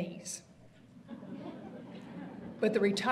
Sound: audience laughter

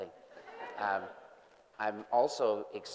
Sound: group laughing

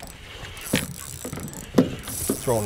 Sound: reel zipping

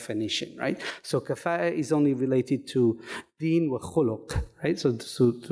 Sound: speaking in foreign language

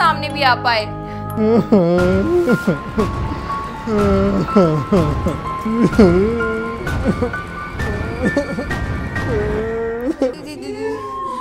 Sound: crying

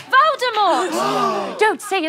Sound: collective gasp

